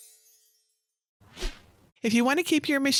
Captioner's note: magic sparkling; screen whooshing